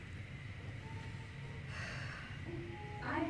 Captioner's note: sigh